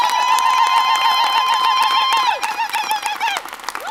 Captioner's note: women ululating